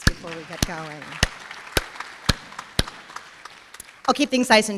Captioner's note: applause